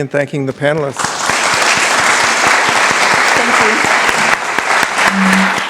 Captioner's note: applause